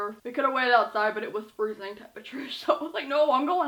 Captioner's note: laughs